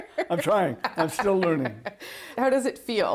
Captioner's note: laughter